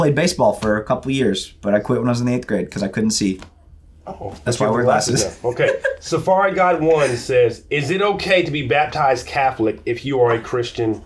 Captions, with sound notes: I played baseball for a couple of years, but I quit when I was in eighth grade. 'Cause I couldn't see. That's why I wear glasses. (laughs) - Okay, SafariGuide1 says, is it okay to be baptized Catholic if you are a Christian,